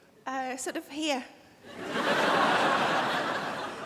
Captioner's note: crowd laughs